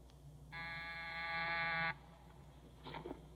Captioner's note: doorbell Buzzes